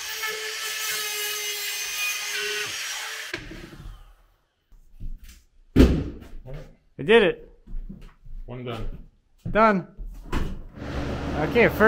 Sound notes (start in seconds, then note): 5.8 material thumping